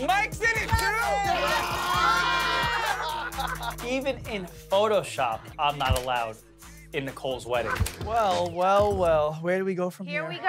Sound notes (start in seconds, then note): 1.0 cheers